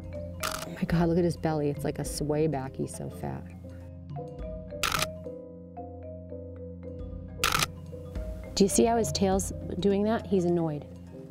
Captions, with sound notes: Oh my god, look at his belly. It's like a swayback, he's so fat. (camera clicks) Do you see how his tail's doing that? He's annoyed.